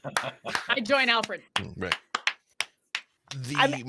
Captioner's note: slow clap